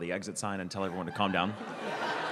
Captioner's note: laughter